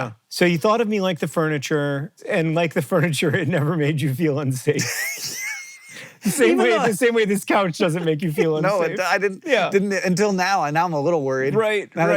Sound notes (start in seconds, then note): 4.8 laughing; 4.8 HANK wheeze-laughs